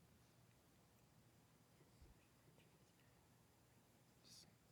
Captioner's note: participants whispering